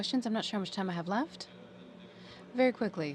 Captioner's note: speaking french